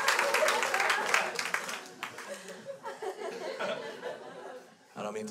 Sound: crowd applauds; crowd continues to laugh

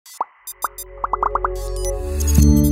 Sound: electronic beeping and popping; ethereal music

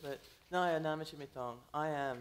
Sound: foreign language

